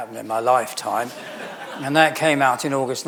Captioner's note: audience laughing